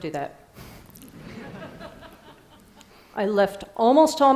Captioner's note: Risadas